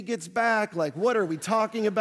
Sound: audience laughing

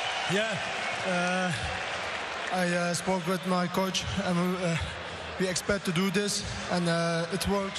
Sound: cheers and applause

